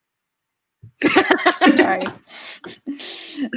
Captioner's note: laugh